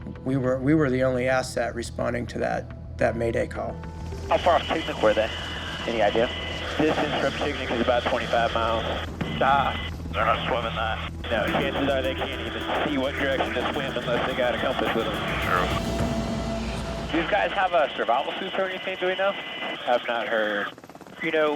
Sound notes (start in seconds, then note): 17.2 man Over Radio; 20.1 person Over Radio